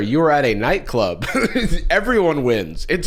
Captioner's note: laughs